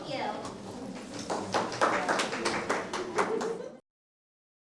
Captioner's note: clapping